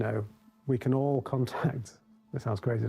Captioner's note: chuckles